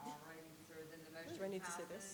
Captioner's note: faintly speaking